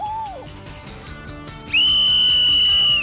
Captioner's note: loud whistle